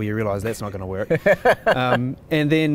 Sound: laughing

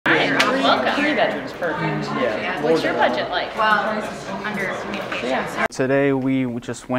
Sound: crowd noise

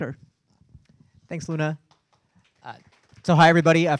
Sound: audience applauding

